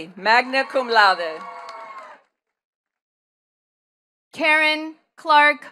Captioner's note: attendees cheering and clapping